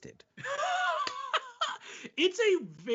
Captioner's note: laughing